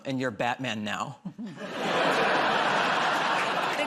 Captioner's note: laughter